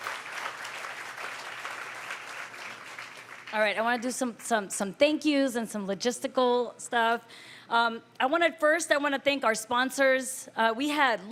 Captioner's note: applause